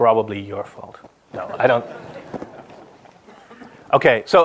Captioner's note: audience laughs